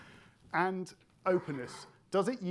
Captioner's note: attendee coughing